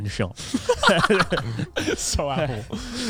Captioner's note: laughs